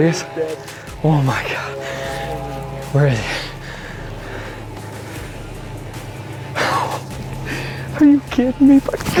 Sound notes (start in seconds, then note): 4.2 rock music; 6.6 laughing